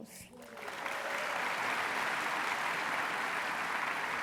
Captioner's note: applause